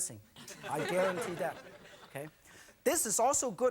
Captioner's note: audience laughing